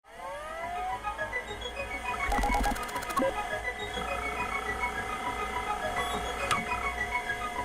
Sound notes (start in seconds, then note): 0.1 whirring; 2.2 dramatic music